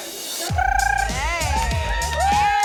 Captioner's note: trills